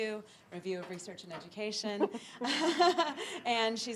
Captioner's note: chuckles